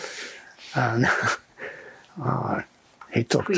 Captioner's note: laughing